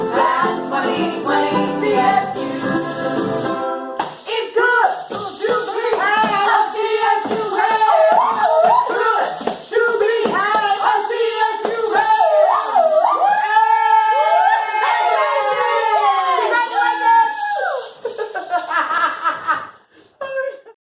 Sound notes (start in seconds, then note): 13.0 all cheering; 18.2 laughing